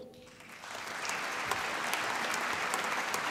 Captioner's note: applause